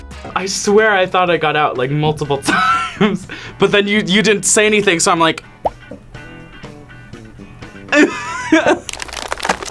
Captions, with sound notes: - I swear I thought I got out multiple times. But then, you didn't say anything, so I'm like... (laughs)